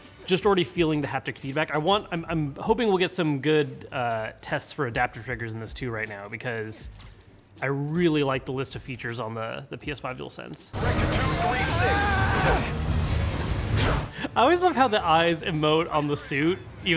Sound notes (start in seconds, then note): 10.7 dramatic music; 11.3 yelling